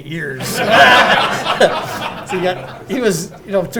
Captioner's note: audience laughing